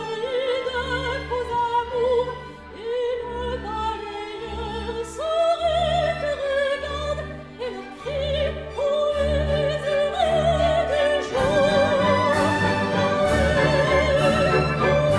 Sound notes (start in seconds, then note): none